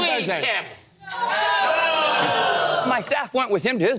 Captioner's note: boos